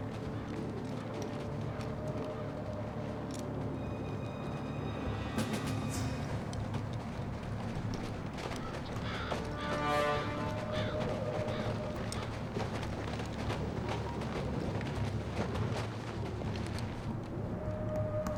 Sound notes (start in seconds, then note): 7.6 birds cawing